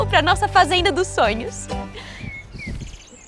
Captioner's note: birds